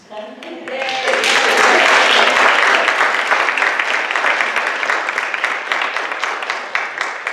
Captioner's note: audience clapping